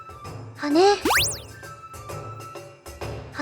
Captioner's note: upward brushstroke